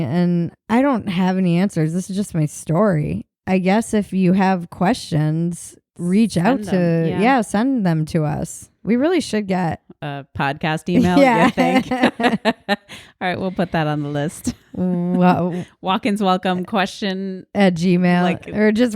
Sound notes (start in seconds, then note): 11.0 laughs